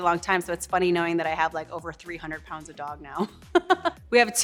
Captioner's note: laughs